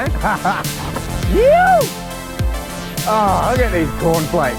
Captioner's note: laughs